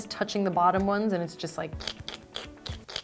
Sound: sticking noises

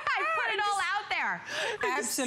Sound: laughter

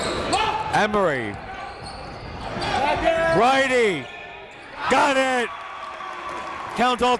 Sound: crowd cheering

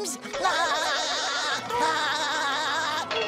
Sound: laughing

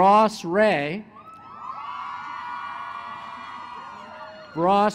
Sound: cheering

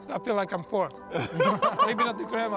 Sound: laughter

